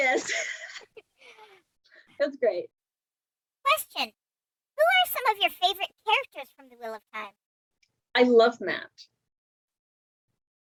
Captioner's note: laughs; laughs